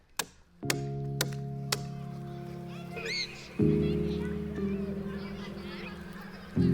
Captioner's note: mellow ethereal music; children playing